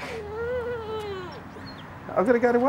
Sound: whines

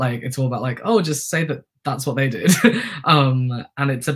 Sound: laughter

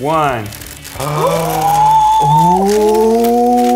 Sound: gasping

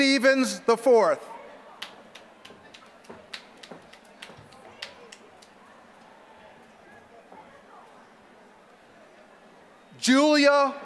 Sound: applause

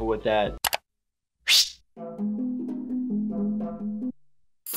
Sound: mouse clicks

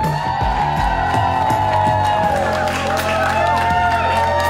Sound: crowd whoops and cheers

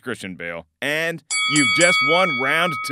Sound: bell clangs

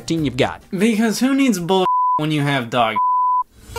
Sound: beep

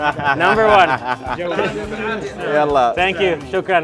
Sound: all laugh

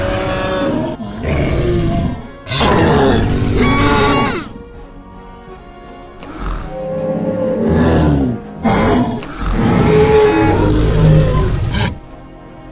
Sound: various Dinosaur Sounds

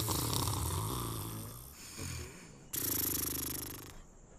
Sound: snoring

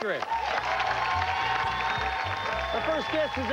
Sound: cheers and applause

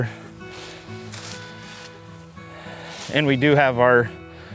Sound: gentle instrumental music; leaves rustling

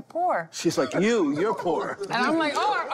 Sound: laughter

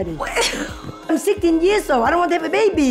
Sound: laughs

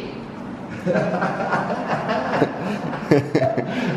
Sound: laughter

